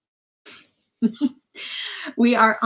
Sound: laughing

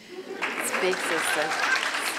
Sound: audience claps

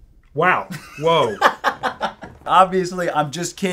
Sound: laughs

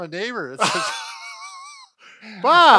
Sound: both laugh

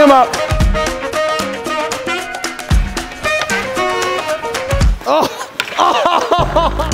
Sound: upbeat music; groaning

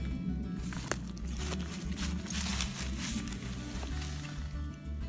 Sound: leaves crunch

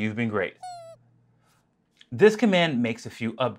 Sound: squeak

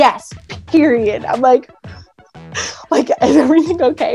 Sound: confused

